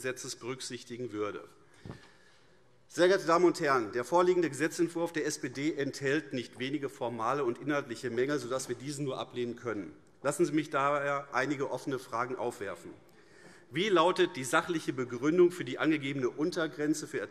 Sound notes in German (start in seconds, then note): none